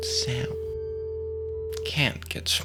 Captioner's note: the smooth sound of a sine wave